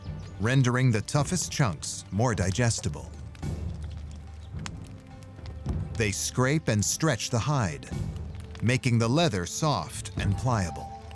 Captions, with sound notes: rendering the toughest chunks more digestible. [fire crackling] They scrape and stretch the hide, making the leather soft and pliable.